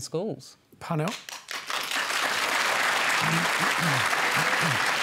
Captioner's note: applause